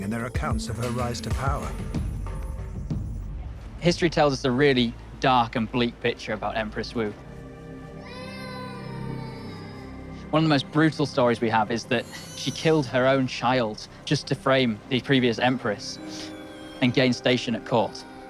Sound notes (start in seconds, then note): 8.0 baby crying